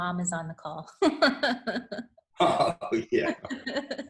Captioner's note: laughs